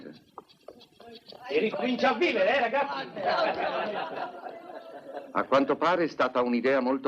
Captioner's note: men laughing